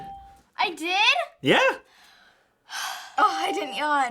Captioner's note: sighing in relief